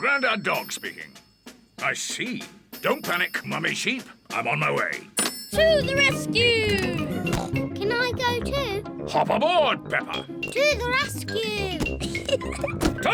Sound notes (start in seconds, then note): 7.2 snorts